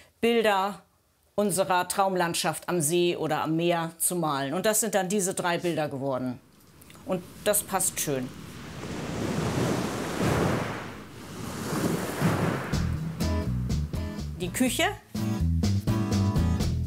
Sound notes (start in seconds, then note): 8.6 sea sound; 12.7 dynamic music